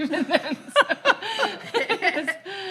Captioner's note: laugh